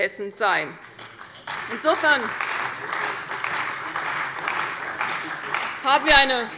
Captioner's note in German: Beifall bei der CDU und dem BÜNDNIS 90/DIE GRÜNEN